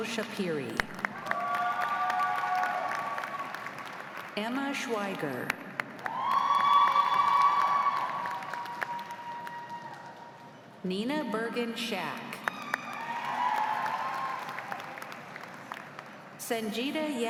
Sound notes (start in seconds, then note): 4.7 applause; 4.7 cheers